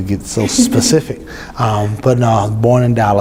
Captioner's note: laughs